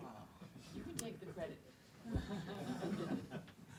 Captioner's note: audience laughs